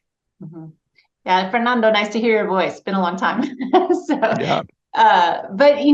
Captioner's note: laughs